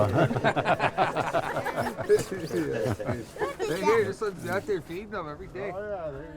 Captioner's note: all laughing